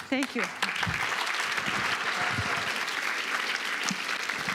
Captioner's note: applause